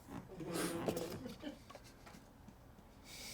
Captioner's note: crew laughs